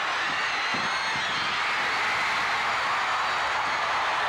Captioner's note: audience clamoring